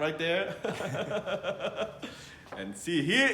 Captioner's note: laughs